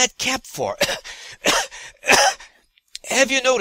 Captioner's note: cough-cough-cough